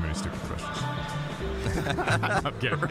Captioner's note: both laughing